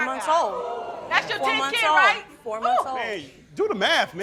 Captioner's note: crowd oohing